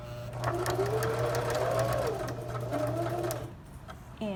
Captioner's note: sewing machine hums